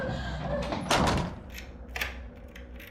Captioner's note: door slams shut, locks